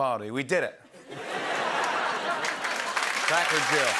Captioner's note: laughter and applause